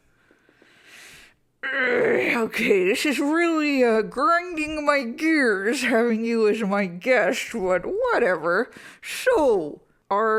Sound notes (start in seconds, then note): 1.6 grumbles